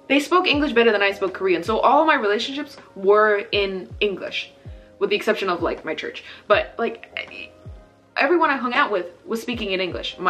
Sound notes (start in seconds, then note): none